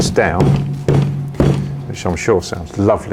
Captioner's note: pot bangs